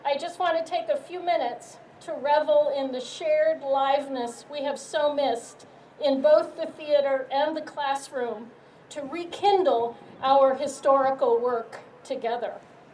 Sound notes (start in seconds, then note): none